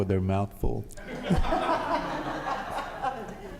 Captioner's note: laughing